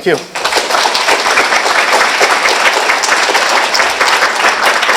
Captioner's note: applause